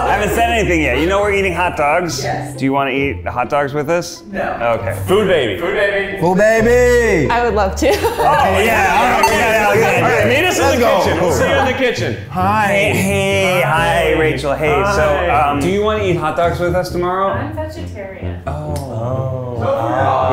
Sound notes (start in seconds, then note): 8.5 laughs; 8.6 they cheer